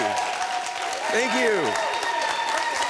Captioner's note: audience cheering; audience clapping